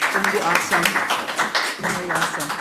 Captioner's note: audience applauds